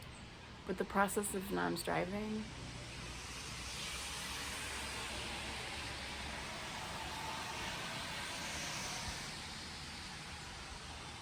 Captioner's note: traffic sounds